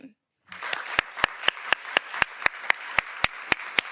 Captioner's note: audience applauds